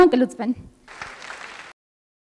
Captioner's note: applause